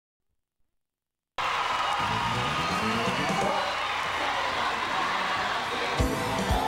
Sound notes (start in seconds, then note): 1.4 audience cheering